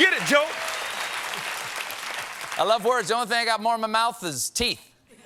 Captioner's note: cheers and applause